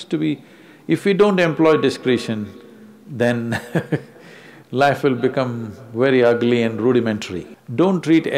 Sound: laughs

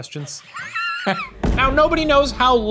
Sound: laughs

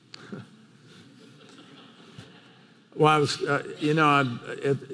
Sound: laughs

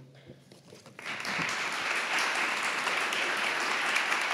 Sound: audience applauding

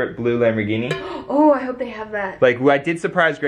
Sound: exclamatory metal dinging

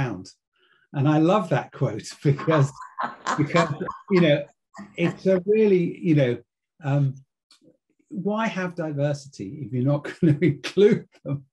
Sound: laugh

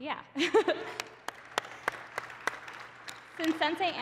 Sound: applause

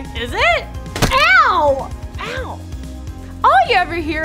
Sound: thuds

